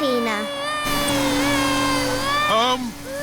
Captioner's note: crying